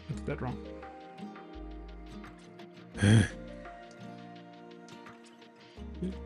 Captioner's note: sighs